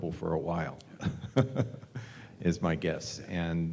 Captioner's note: laugh